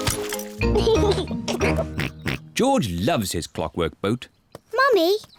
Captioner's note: giggles